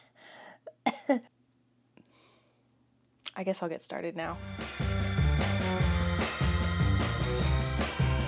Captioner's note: sigh